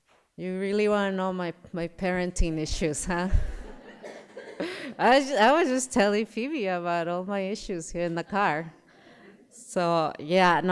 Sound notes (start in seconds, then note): 3.3 laughter